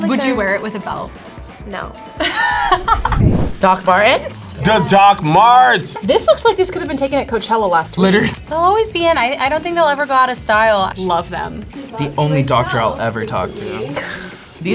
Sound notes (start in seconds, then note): 2.2 laughs; 7.9 laughs